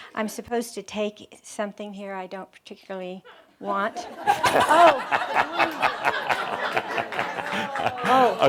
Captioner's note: more laughter